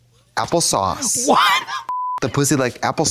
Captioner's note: beep